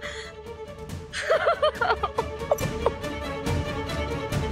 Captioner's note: chuckles; laughs